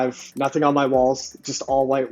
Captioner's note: mouse clicking